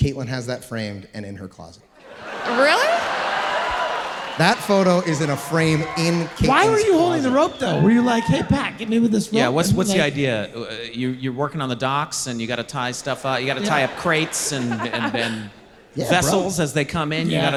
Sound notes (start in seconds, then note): 2.0 audience laughing